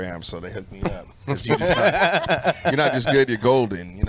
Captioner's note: laughs